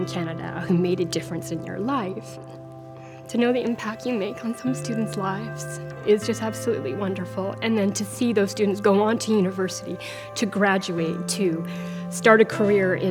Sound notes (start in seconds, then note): 2.6 weeps